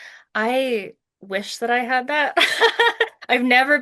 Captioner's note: laughs